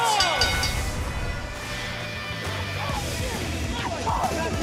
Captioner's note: bell ringing